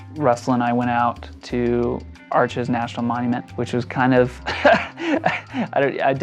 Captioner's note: laughs